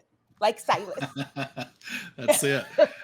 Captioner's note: laughing